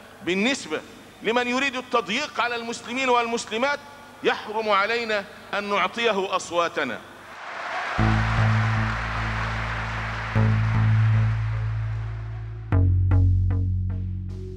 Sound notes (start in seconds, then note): 7.3 applause; 9.8 background music